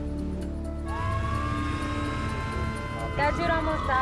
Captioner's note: sirens